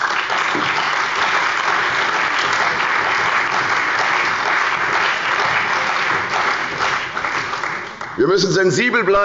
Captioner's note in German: Beifall bei der CDU und dem BÜNDNIS 90/DIE GRÜNEN